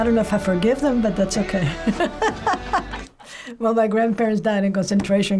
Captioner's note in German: kichert